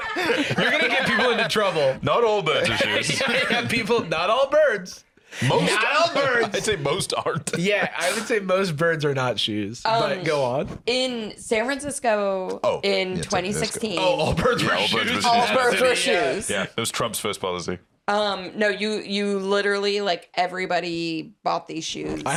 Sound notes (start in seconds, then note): 2.6 laughing